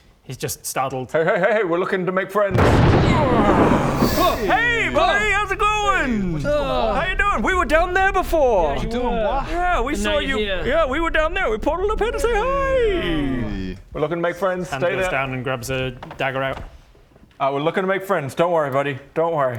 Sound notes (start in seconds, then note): 2.5 crash!; 4.0 hrh!